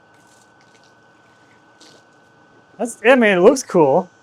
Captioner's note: water splashing